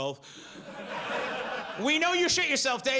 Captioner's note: audience laughs